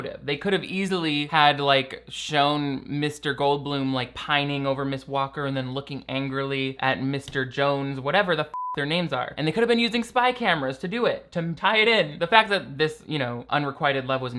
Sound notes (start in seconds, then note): 8.5 beeps